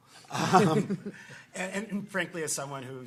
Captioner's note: people laughing